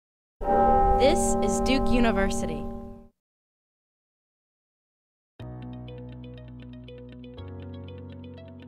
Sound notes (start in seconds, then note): 0.4 bell donging; 5.5 light, upbeat music